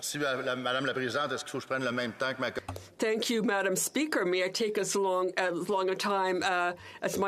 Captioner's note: speaking French